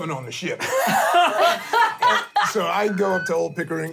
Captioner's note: laughter